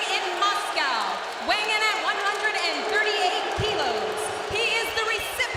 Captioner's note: crowd clamoring continues